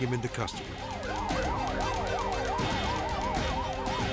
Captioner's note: sirens screaming